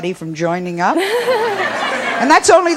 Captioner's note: and audience laughs